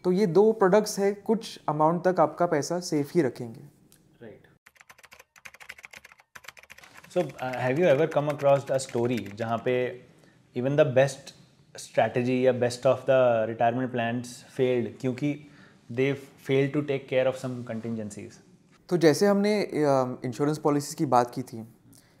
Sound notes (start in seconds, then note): 4.6 typing